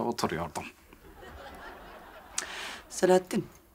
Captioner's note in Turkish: Gülme efekti